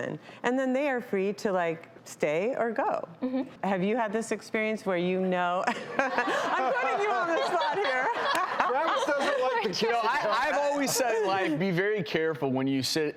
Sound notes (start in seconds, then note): 5.8 laughs; 8.0 audience laughs; 9.8 drown out by laughter